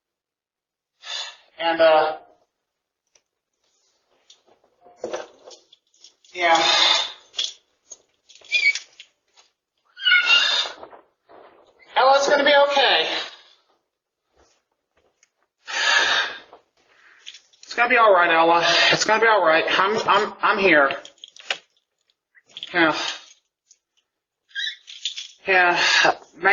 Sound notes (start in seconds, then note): 7.8 Ella whimpering; 15.7 Ava sighs